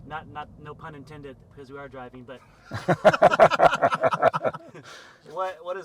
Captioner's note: laughs